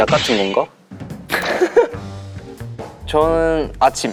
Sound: burst out in laughter

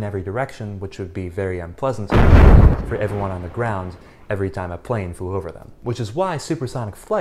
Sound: sonic Boom

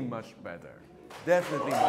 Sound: audience applauding; audience cheering

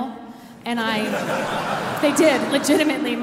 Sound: audience laughing

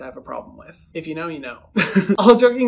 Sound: laughs

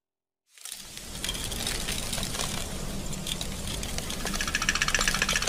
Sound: smoke hissing; rattling

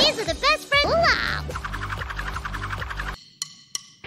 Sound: really fast jump-roping

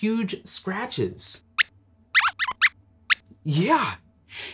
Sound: squeaks squeaks

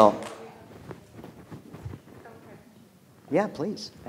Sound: speaks faintly

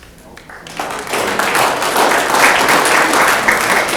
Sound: audience clapping

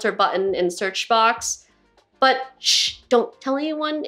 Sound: none

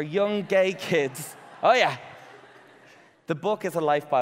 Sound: audience laughing

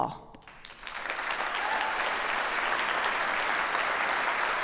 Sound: audience applauds

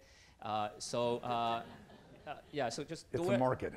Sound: audience chuckling

